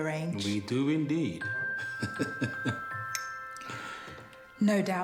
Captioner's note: laughs; bright music